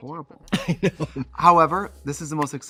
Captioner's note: laughs